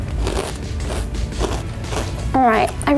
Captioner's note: crunches